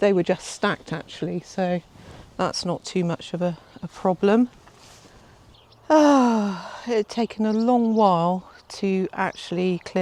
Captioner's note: big sigh